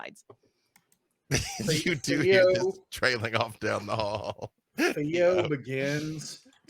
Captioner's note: laughs